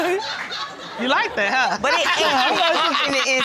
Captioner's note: laughs